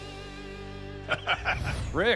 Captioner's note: laughs